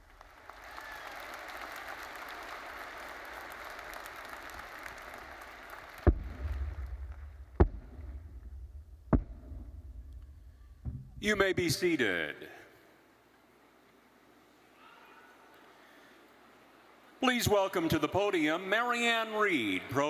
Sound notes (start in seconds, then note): 0.0 attendees applauding; 7.3 mace thudding